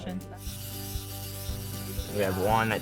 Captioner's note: robot whirring